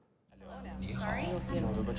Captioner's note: indistinct chatter